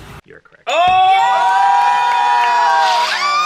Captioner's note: everyone cheers